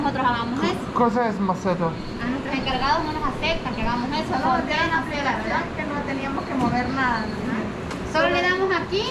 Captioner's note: spanish words I don't understand